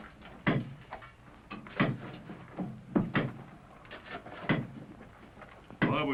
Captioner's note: blows - clanging